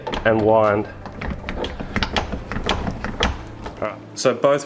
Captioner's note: machine clicking